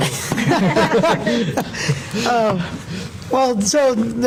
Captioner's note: laughter